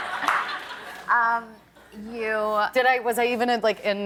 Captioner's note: laughter